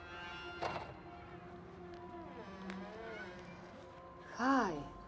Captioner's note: door creaking